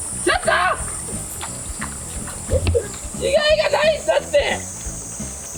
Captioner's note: laughs